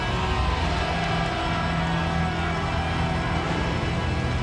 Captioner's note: audience cheers